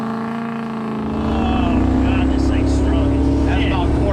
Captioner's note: car engine revving